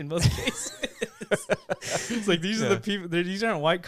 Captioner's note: laughing